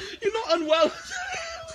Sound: laughs

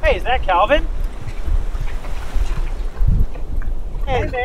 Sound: feet shuffling

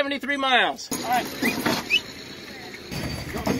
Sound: whistle

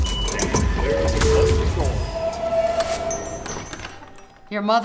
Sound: train doors whirring

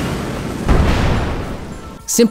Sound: soft puff of explosion

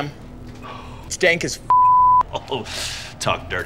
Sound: beep

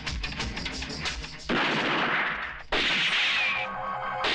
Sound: gun Firing

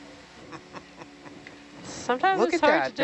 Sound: person chuckles

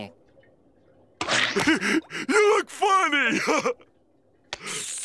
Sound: laughing

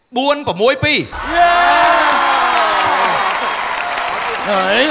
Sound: cheer and applause

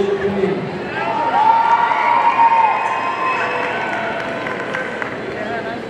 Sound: audience cheering

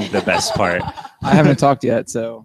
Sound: all laugh

